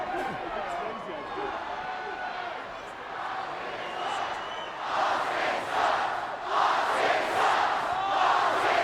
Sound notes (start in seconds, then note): 0.4 wrestlers chattering; 3.2 audience chanting